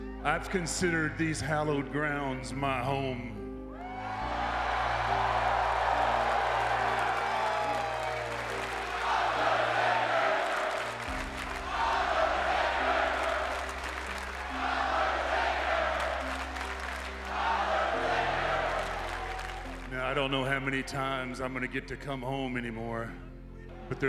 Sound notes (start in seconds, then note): 3.8 crowd cheering; 10.5 crowd clapping rhythmically